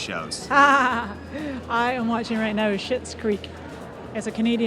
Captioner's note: laughs